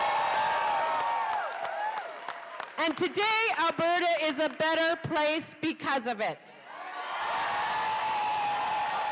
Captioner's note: cheers and applause